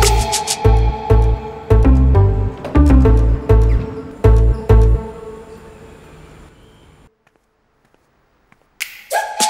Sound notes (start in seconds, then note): 0.1 door opens; 2.6 door closes